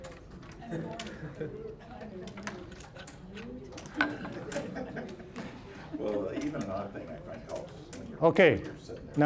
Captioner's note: general chatter